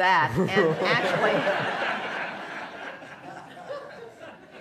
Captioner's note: laughter